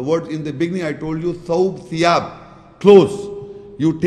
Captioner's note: Arabic